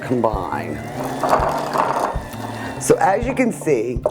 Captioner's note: electric mixer whirring